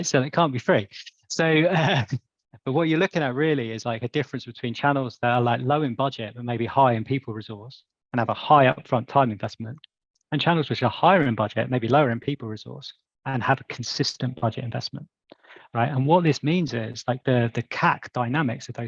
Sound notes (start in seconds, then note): 1.4 laughs